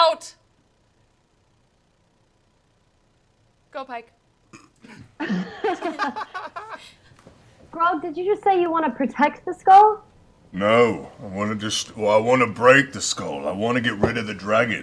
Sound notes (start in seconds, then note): 4.8 laughter